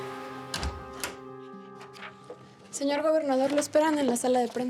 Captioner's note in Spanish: sonido al abrir la puerta